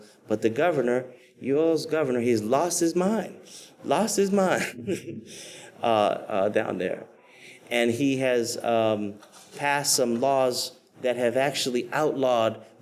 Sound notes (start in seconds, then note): 4.4 laughs